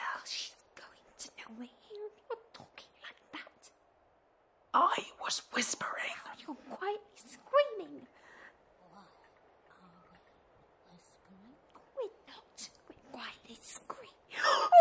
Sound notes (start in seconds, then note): 9.5 whispering; 14.5 JENNY screams in shock